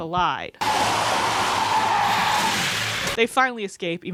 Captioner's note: tires screeching, crashing noises